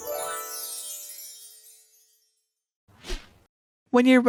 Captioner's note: magic sparkling